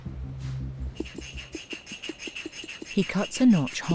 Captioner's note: saw scraping